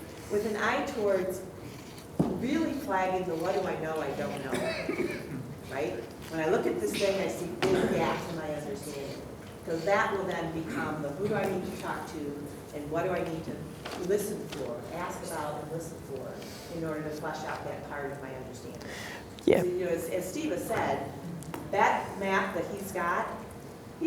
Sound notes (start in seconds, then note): 8.5 voice muffled; 18.1 voice muffled